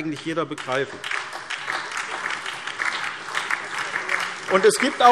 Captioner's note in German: Beifall SPD, DIE LINKE und vereinzelt BÜNDNIS 90/DIE GRÜNEN